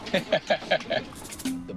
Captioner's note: laughter